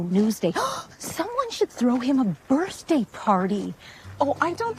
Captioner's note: gasps